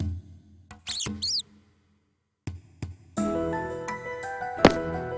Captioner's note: squeaks